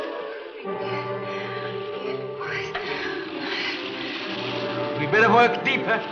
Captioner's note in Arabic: آن تهمس بصوت غير مفهوم